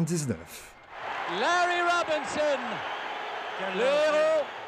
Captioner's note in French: cris de la foule